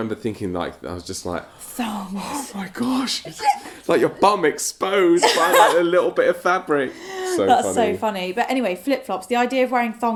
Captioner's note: gasp